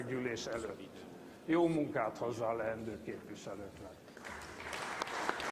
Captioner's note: applause